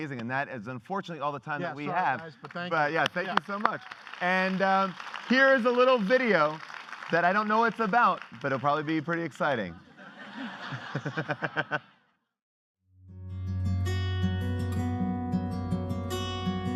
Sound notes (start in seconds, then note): 9.6 laughing; 13.0 light guitar music